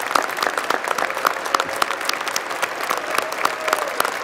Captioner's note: applause